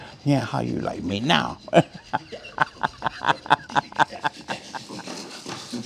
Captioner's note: laughs